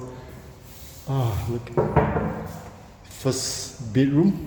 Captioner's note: knock on the solid timber door